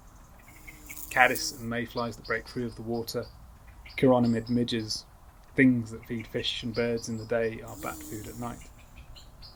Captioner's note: flies buzz